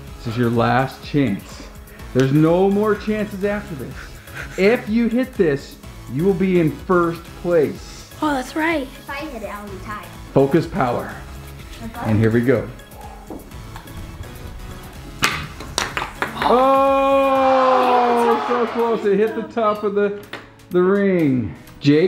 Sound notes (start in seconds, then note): 15.2 ball clacks; 16.4 disappointed audience